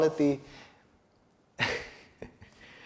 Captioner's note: chuckles